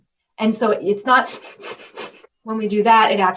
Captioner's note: breathing fast